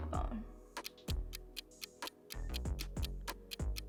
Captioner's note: clock ticks